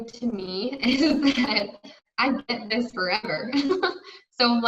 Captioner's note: giggles